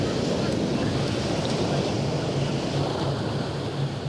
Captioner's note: waves crashing